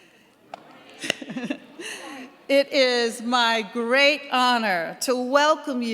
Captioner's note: laughs